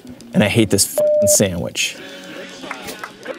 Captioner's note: beep